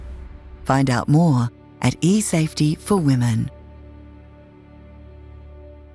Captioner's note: voiceover